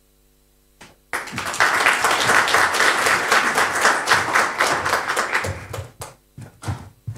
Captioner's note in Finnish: Aplodeja